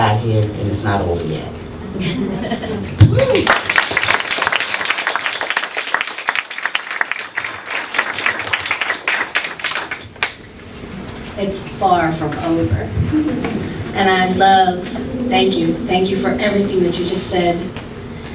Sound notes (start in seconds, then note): 3.1 clapping